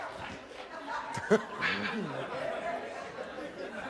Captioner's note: laughs